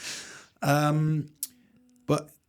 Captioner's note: laughs